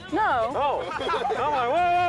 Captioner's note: all laughing